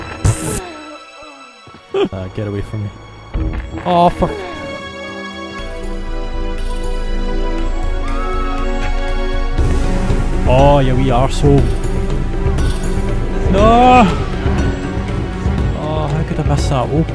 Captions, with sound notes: Pfft (Laughs) A get away from me Aww for Aww ya wee arsehole Naaaw Aww how could A miss that o-